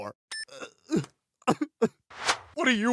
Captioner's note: cell phone beeps; Dr. Hartman sobs